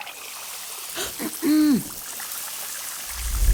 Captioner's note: gasps